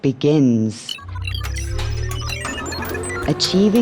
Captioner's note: beeping